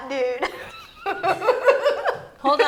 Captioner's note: laughing